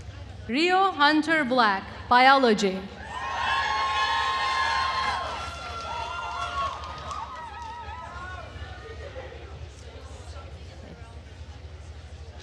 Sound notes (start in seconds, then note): 3.0 attendees cheering and applauding